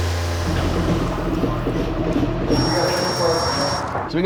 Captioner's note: tool noises